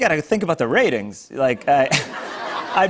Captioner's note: laughter